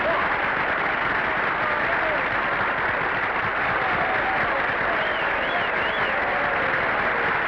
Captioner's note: audience applauding; audience whistling